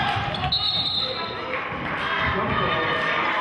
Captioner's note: whistling